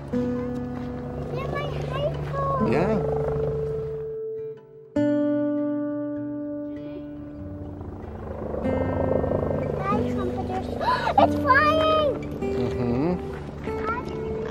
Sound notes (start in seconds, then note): 4.6 sentimental music; 10.7 exclaims